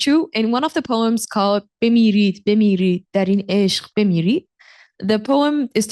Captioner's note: non-english speech